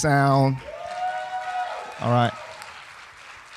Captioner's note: audience cheering